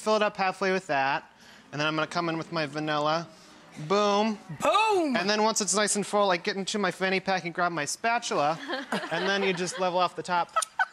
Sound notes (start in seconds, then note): 8.5 laughter